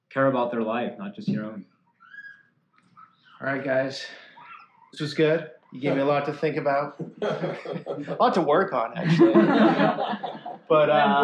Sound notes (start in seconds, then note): 8.9 laughter